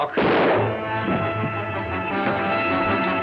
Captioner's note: gun fires; suspenseful music